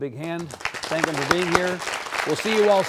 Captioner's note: audience Applauds